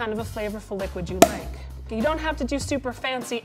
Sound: cork pops

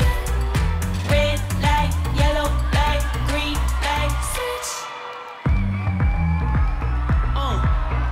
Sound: ooh

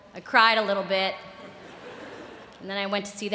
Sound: laughter

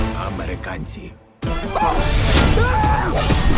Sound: Bruce yelps

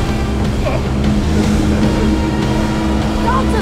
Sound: Ben groans

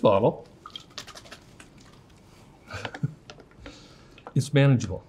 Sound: shakes bottle

